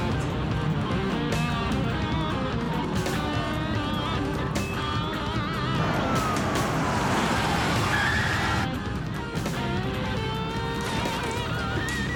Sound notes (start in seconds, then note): 5.7 siren wails